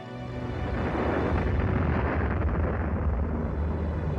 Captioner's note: somber instrumental music; bombs exploding